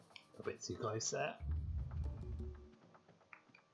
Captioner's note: rumble